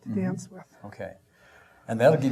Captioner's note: exhaling